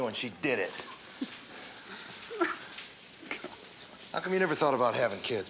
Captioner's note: Tom laughs